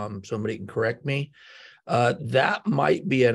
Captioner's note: inhales